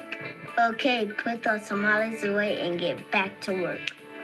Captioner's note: snaps